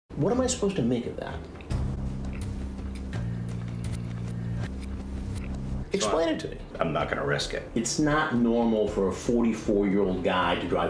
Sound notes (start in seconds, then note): 1.5 extended chewing